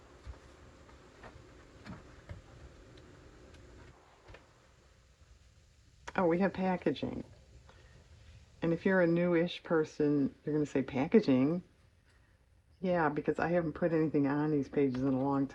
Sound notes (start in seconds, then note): none